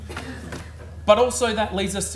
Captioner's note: audience laughs